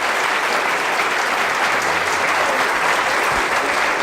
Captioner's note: applause